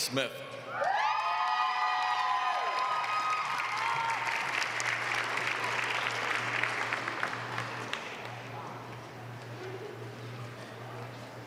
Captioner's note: applause